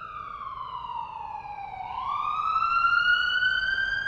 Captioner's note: siren sounds return